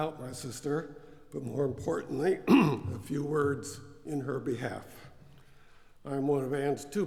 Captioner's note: cough